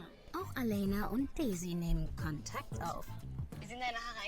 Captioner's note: show host speaking in German